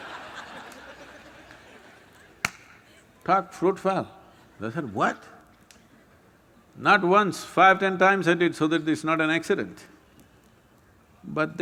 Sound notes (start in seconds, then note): 0.6 gestures – Claps